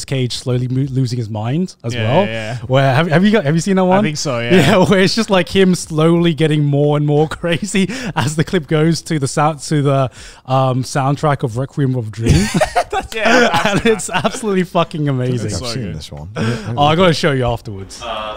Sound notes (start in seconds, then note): 12.2 everyone laughs